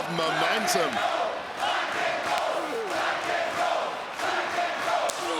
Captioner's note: crowd chanting